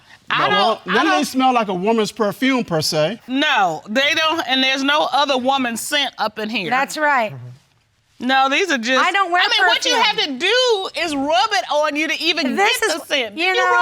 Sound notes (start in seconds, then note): none